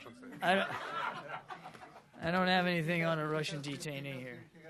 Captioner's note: laughter